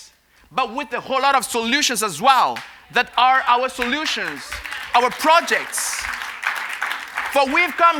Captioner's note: applause